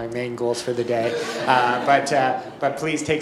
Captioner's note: audience laughs